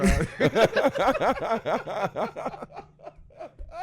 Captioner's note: laughing